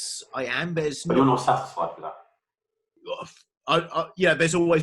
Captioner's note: murmurs